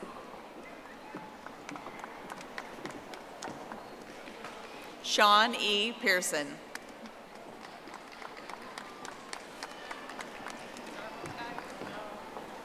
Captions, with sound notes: Iridian Juarez. (audience applauding) Shawn E. Pearson. (audience applauding)